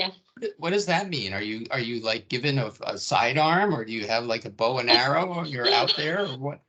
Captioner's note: laughing